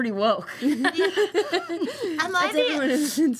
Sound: laughter

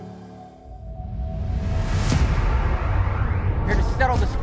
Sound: dramatic sound effects

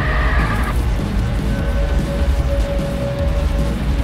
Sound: yelling

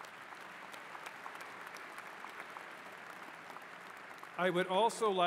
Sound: applause

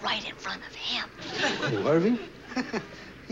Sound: laughs

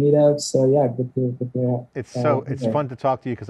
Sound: audio muffling

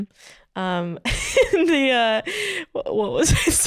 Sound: laughing

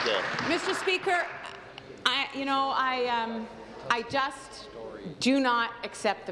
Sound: applause

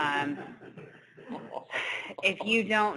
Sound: laughter

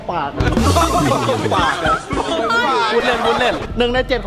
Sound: laughs

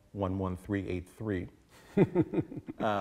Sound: laughter

